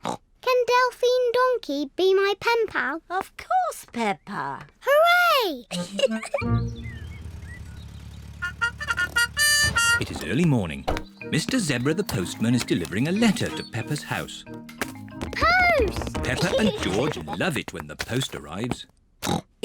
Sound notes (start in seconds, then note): 0.3 snorts; 5.7 giggles; 8.4 car horn